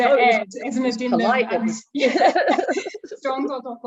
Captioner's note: laughing